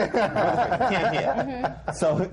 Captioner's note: laughter